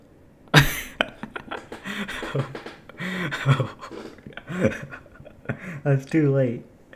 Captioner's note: cringe laughing